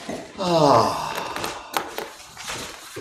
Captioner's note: sighs